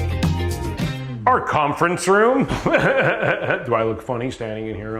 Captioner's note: laughs